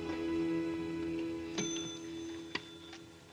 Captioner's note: bell dings